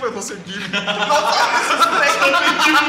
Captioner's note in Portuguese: Todo mundo ri